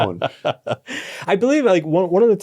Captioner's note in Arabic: يضحك